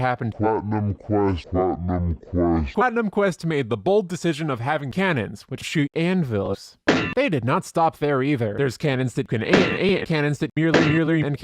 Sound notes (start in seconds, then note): 1.7 pitch descending; 6.8 anvil thud